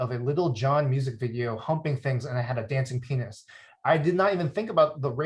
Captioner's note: none